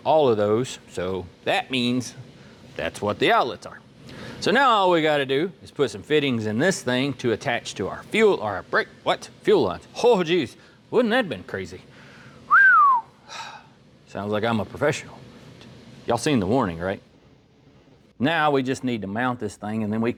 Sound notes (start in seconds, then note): 12.4 whistles